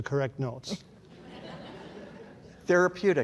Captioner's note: audience laughs